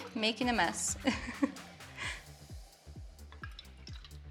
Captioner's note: chuckling